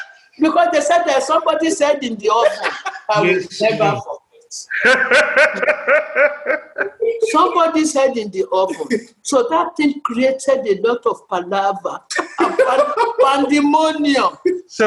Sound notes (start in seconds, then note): 4.7 laughter